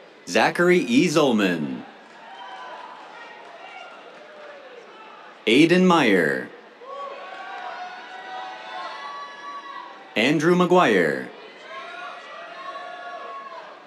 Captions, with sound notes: Zachary E. Zollman. [APPLAUSE] Aidan Meyer. [CHEERS] Andrew McGuire. [CHEERS]